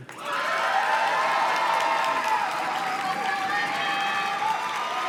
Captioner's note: audience cheers and claps